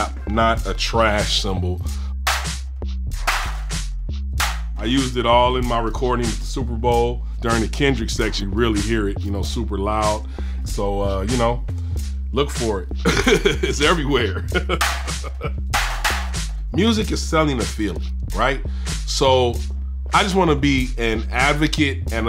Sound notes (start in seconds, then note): 2.2 cymbal claps; 13.0 laughs; 15.7 cymbal claps